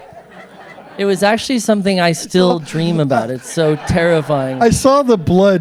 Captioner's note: laughter